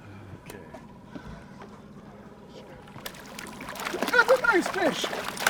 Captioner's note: fish splashing